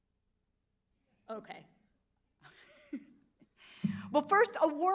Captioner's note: laughs